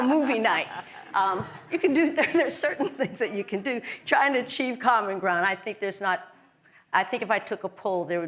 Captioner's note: laugh